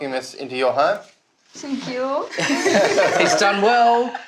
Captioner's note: laughter